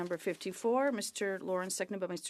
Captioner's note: speaking French